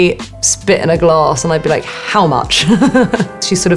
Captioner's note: Alexa laughing